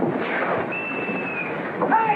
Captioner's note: whistle